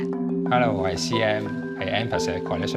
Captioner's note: Cantonese